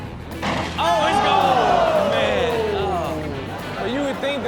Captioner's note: audience gasps